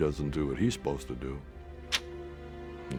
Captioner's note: sucks teeth